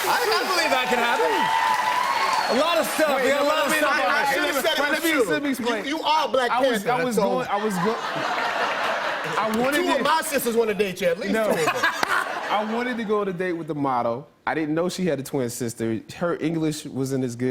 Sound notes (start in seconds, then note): 7.3 laughter